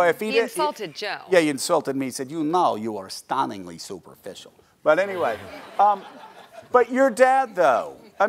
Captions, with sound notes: - Well if he didn't-- - he insulted Joe. - Yeah, he insulted me. He said, "You know you're stunningly superficial." But anyway (audience laughing) But your dad though,